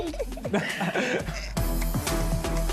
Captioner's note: laughs